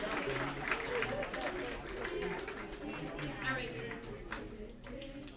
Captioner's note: applause